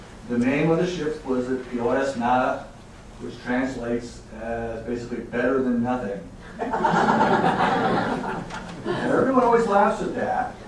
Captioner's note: audience laughing